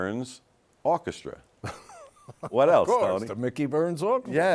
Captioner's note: laughs